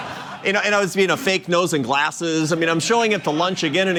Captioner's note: laughter